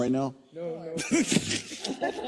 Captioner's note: laugh